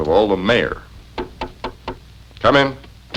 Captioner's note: knocking